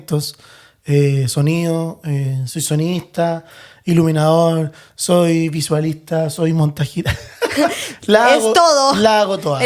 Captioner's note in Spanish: risas